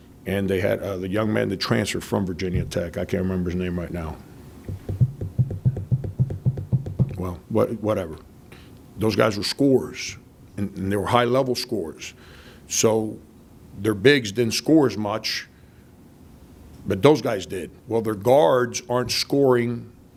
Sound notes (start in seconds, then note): 4.6 drums on table